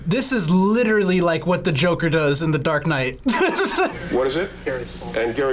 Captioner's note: laughs